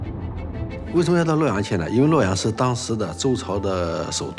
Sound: speaking Chinese

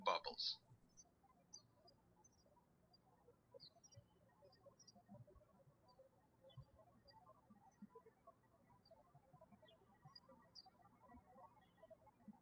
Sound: birds chirping

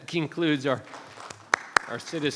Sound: people clapping

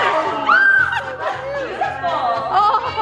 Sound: cheering; delighted squealing

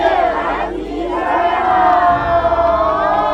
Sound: cheer

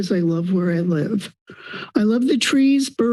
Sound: inhales

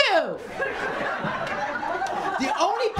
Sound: laughter

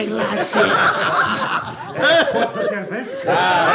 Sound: laughs all

